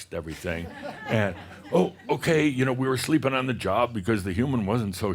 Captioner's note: some chuckles